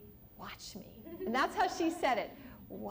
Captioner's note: laughter